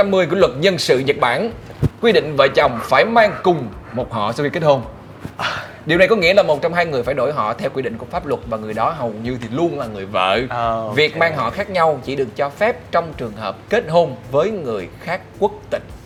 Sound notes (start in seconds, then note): 5.2 sigh